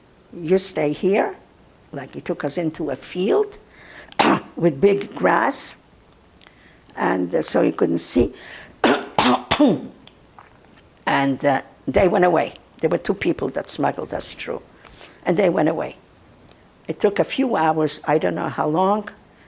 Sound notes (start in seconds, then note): 4.2 clears throat; 8.8 clears throat